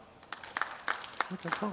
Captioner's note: clapping